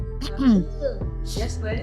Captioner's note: clears throat